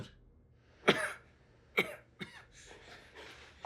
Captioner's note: Roy coughing